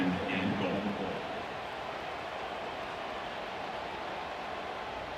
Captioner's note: cheering